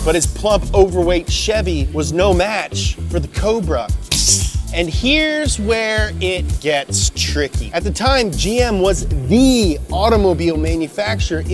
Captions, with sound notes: But his plump, overweight Chevy was no match for the Cobra. (imitates snake) And here's where it gets tricky. At the time, GM was the automobile manufacturer